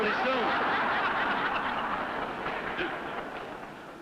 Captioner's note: crowd laughter